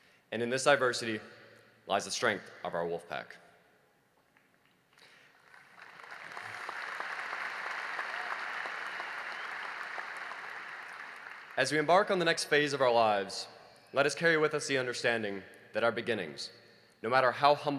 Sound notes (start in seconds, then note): 5.0 applause